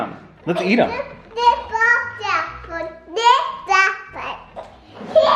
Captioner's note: babbles and laughs